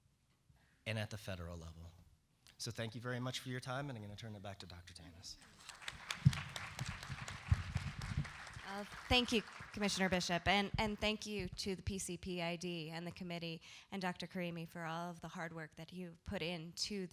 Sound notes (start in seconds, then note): 5.4 applause